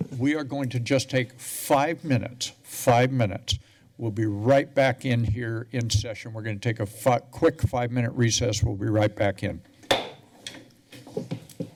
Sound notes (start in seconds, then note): 9.9 gavel thuds